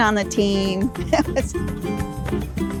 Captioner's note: laugh